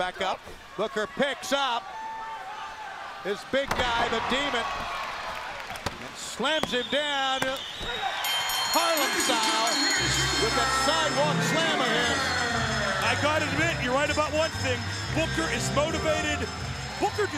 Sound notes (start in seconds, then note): 7.4 bell ringing